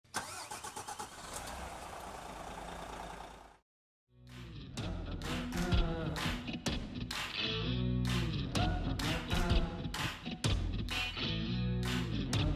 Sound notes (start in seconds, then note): 0.2 engine purrs; 4.4 chilled music